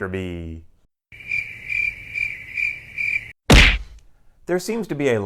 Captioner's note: crickets